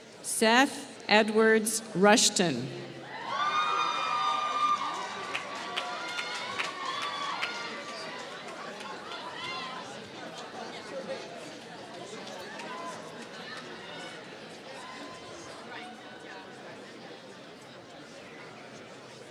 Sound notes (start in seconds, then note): 3.8 applause